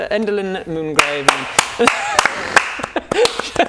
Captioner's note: clap clap CLAP CLAP CLAP